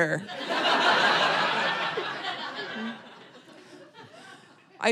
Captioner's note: audience laughing